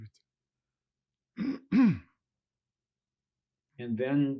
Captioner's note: clears throat